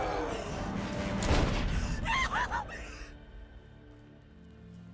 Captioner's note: gun shooting